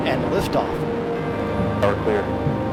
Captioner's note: none